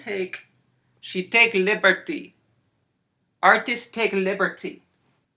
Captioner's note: accented